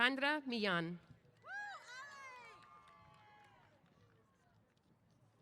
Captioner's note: applause & Cheers